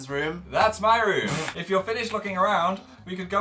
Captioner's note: snorts